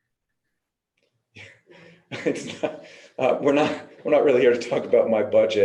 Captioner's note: laughs